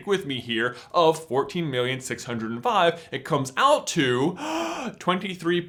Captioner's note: gasps